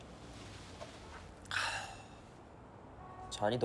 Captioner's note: sighs